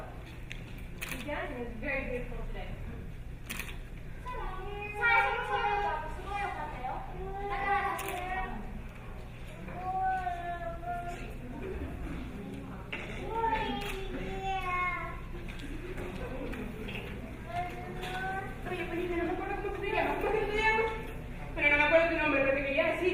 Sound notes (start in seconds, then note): 5.6 speaking in foreign language; 13.9 baby babbling; 19.0 speaking in foreign language